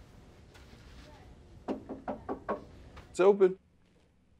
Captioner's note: knocking on door